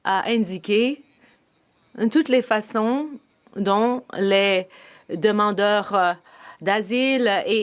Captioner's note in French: voix de l'interprète